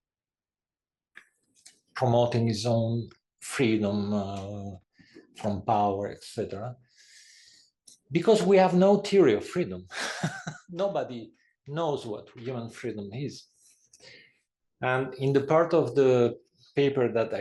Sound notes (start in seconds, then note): 9.9 laugh